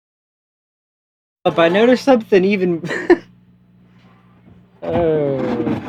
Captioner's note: laughs